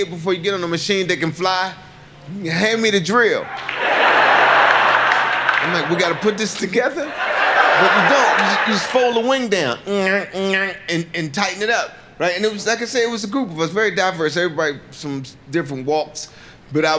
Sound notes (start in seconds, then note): 3.4 audience laughing; 10.2 mimics noise